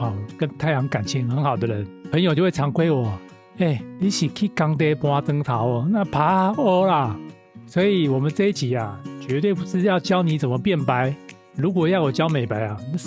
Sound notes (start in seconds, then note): 5.4 in Taiwanese; 6.9 Taiwanese